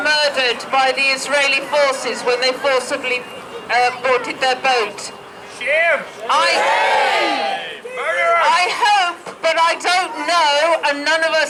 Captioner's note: shouts of shame